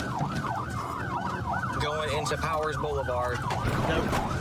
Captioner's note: sirens wailing